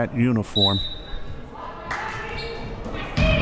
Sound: whistle

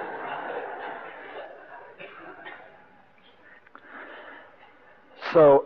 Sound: devotees laugh

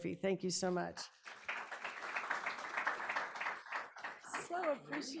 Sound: audience applauding

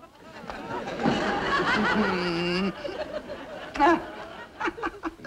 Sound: audience laughing

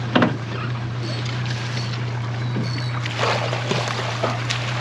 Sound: reel cranking; boat engine idling; fish splashing

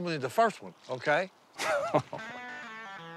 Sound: laughs

